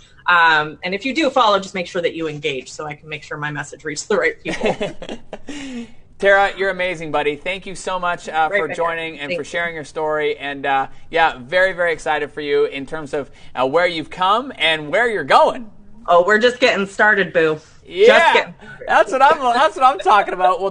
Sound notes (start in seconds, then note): 4.4 laughs